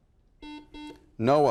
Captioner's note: buzzer